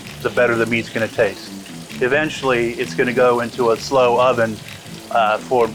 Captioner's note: none